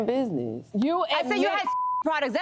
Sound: beep

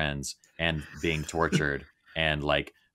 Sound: laughing

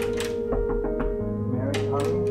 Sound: furious door knocks

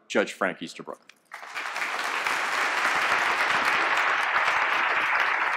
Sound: applause

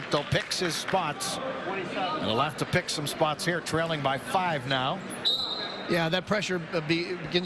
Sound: whistle

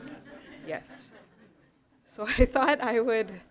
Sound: chuckling

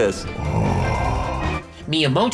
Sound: sighing gutturally

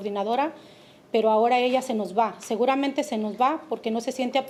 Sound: speaking Spanish

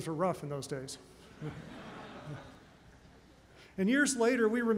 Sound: laughter

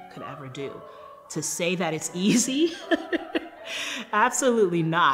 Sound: laughing

